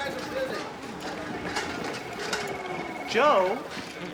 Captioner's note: phone ringing